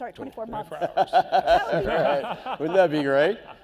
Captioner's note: laughing